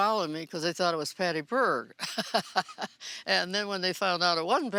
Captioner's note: chuckling